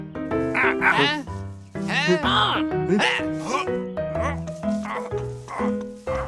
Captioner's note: bright piano music; grunting